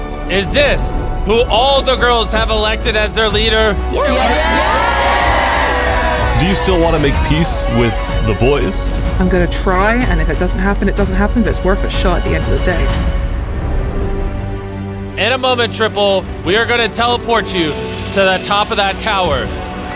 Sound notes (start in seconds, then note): 3.8 cheering